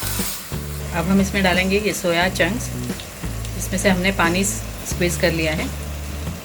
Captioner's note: water is squeezed